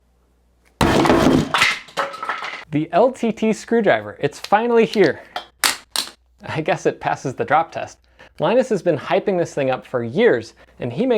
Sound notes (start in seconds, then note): 0.8 loud bang; 5.7 screwdriver falls